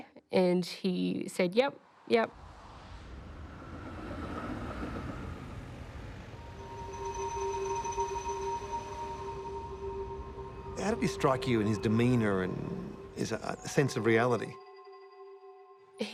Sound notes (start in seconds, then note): 2.4 car engines revving; 6.3 gentle music